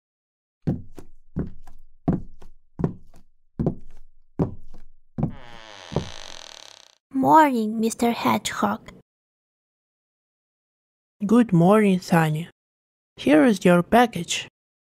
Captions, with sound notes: (footsteps) (door creaks) Morning Mr. Hedgehog Good morning Sunny! here is your package